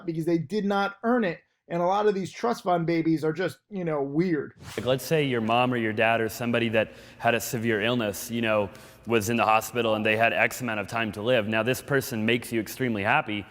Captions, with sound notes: because they did not earn it. And a lot of these trust fund babies are just weird. (air whooshes) - Let's say your mom or your dad, or somebody that had a severe illness was in the hospital, and they had x-amount of time to live, now this person makes you extremely happy,